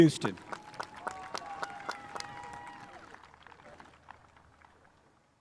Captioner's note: spectators applauding